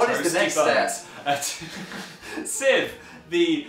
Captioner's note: laughs